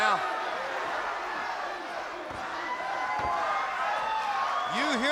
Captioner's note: fans cheering